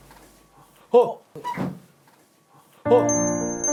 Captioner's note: door opens